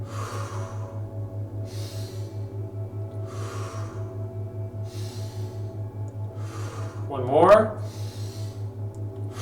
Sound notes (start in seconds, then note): 0.1 exhales; 1.7 inhales; 3.3 exhales; 4.9 inhales; 6.4 exhales; 7.6 inhales